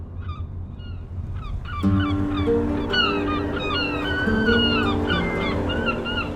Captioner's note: sound of seagulls and music; massive shipwrecks groan, wind howls